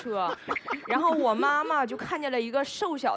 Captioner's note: hahaha